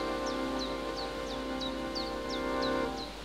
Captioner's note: birds chirping